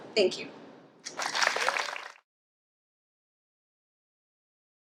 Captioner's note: audience claps